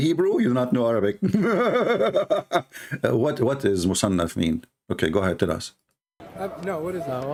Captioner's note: Ketawa